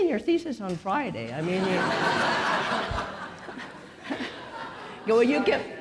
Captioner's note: audience laughing